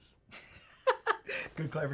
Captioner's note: laughs